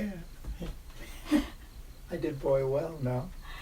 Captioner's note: chuckles